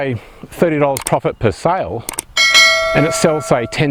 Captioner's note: bell rings